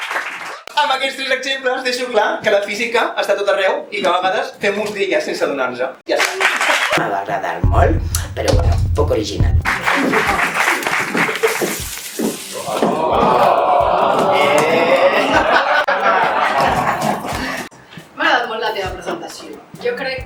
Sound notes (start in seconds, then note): 6.1 applause; 9.6 applause